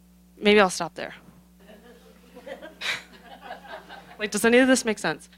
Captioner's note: laughter